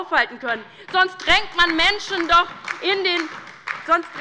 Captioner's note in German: Beifall bei der LINKEN